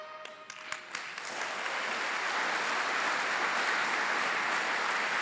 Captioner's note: applause